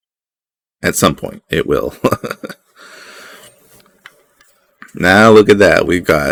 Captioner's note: nervous laughter